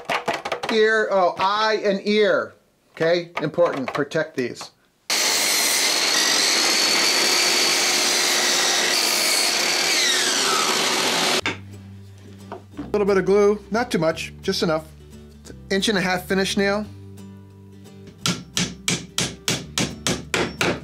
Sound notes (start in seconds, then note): 0.0 taps wood; 5.1 mechanical sawing; 11.7 background music; 17.1 background music; 18.1 hammering